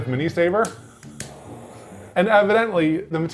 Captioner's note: lighter clicking; flame roaring